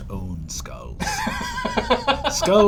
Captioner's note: laughs